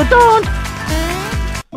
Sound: boing

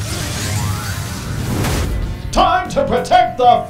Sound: robot suits clanging; cloud whooshes

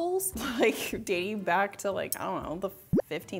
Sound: chuckling

